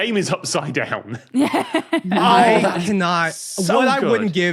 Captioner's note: laugh